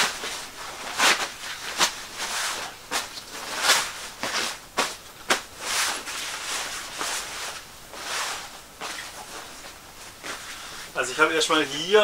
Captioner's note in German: Rascheln